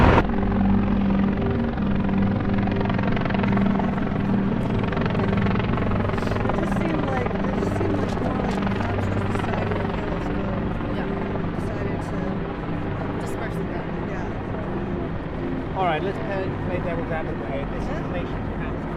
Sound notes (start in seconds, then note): 1.2 helicopter whirs; 4.2 ominous music